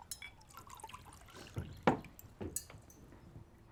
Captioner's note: pouring water